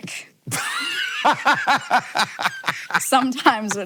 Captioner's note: Hank laughing